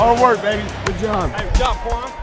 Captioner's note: voiceover